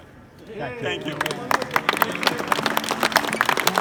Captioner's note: crowd cheers!